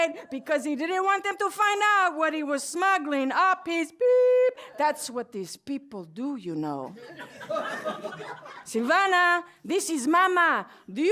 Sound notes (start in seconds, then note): 6.9 laughter